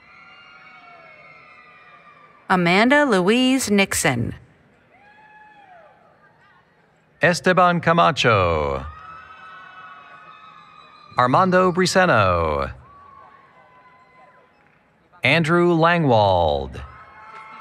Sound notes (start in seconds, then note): 0.0 applause, Cheering; 4.8 cheering; 8.6 applause, Cheering; 16.9 applause, Cheering